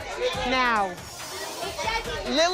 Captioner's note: chatter